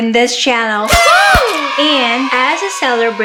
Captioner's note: noisemakers